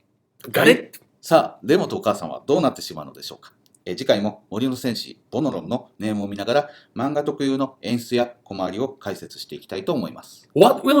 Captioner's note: speaking Japanese